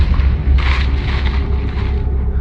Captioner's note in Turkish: çalı hışırtısı